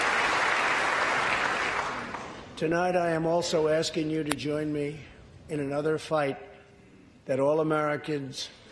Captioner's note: applause